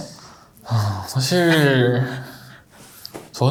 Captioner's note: sighing